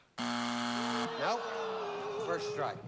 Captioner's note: buzzer